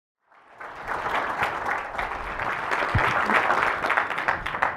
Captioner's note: audience applauding